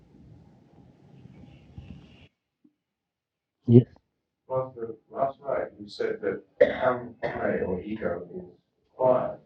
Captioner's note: coughing